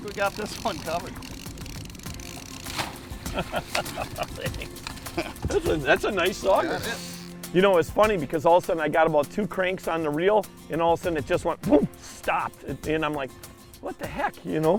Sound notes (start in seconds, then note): 3.2 laughing